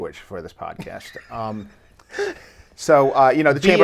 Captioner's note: laughing